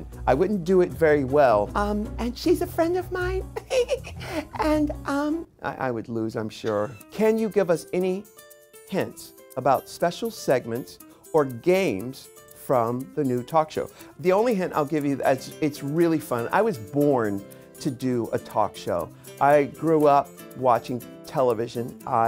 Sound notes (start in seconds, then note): 3.5 giggling